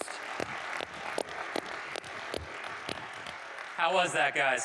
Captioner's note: audience applauding